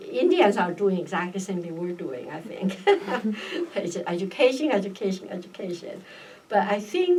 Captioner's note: laughs